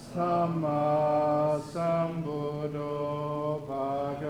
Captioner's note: chanting